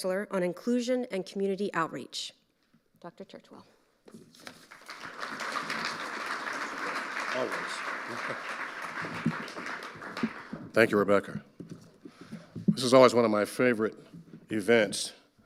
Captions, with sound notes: on Inclusion and Community Outreach. Dr. Churchwell. (audience applauding) - Thank you, Rebecca. This is always one of my favorite events.